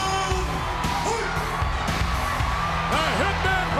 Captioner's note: crowd cheering continues